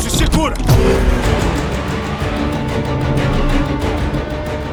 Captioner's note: engine revving